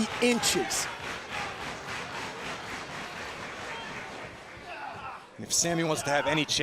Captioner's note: crowd cheering